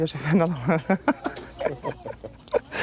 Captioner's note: laughs